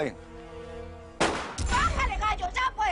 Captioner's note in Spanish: Disparo